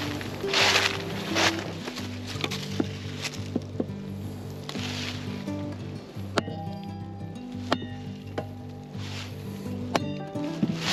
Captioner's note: sizzling